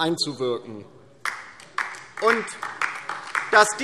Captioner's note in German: Beifall DIE LINKE